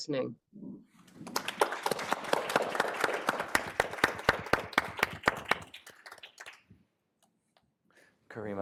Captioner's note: applause